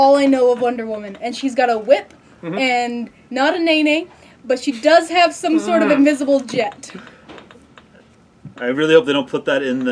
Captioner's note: groan